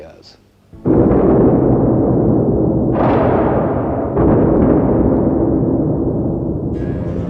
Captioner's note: thunderstorm